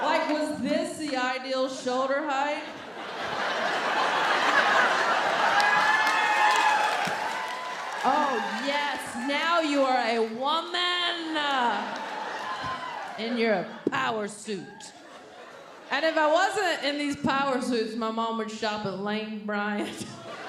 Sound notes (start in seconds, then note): 2.7 audience laughing and clapping